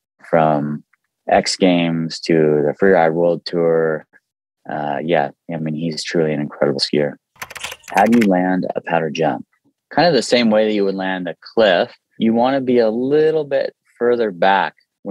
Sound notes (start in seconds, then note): 7.4 keyboard clicking